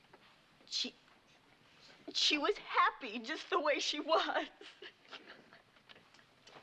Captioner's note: sobbing